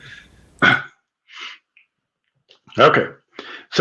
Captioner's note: laughing